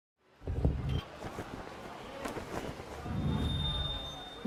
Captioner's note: crowd murmuring